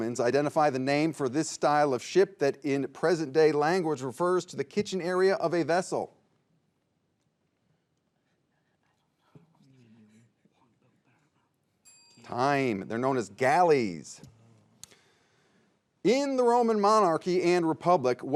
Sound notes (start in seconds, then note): 8.7 players whispering; 11.8 bell dinging